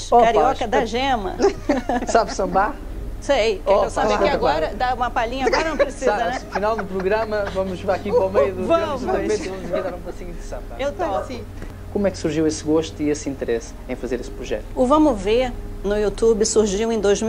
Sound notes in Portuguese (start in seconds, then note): 10.4 risos